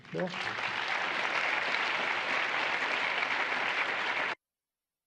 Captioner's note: applause